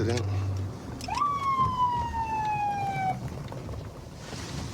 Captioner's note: sirens blaring